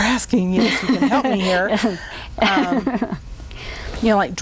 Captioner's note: laughing